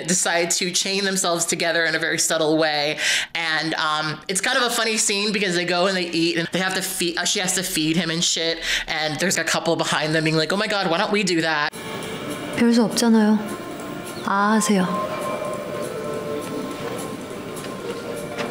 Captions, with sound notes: decide to chain themselves together in a very subtle way. And it's kind of a funny scene because they go and they eat and she has to feed him and shit, and there's a couple behind them being like, oh my God, why don't we do that. - (speaking Korean).